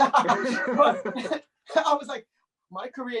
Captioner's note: chuckling